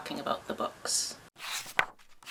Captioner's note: pages turning